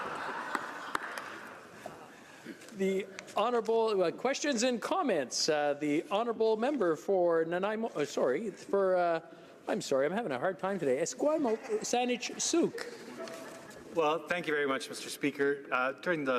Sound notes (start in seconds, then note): 0.0 laughter